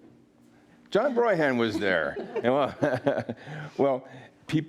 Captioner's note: laughs